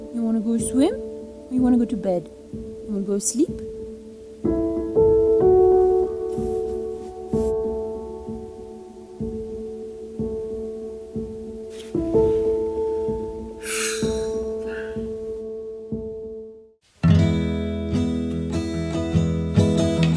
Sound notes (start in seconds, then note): 13.6 sighs; 17.0 light music